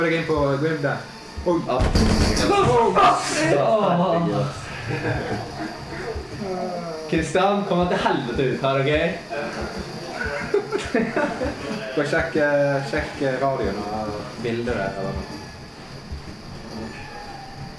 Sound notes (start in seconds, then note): 9.3 mumbling from the kitchen like a little chicken